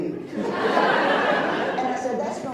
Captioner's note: laughs